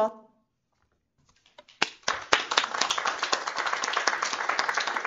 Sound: applause

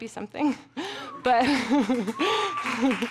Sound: giggles; audience clapping

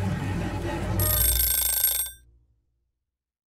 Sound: timer rings

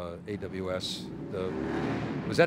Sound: motorbike revving

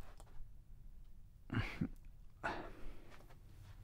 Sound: sigh

